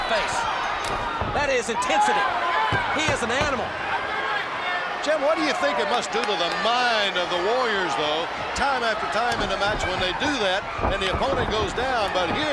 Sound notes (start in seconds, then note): 1.7 crowd chatter